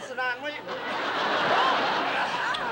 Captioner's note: laughter